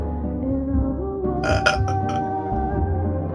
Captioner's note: burps